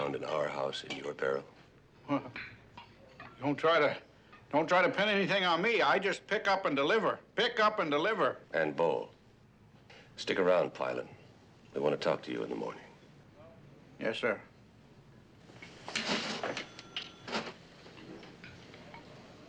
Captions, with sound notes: in our house, in your barrel? [stuttering] Don't try to, don't try to pin anything on me, I just pick up and deliver. Pickup and deliver. And bowl. Stick around, Pylant. We want to talk to you in the morning. Yes, sir.